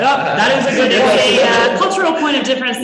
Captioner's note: laughing